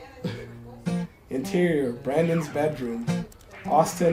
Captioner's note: laughs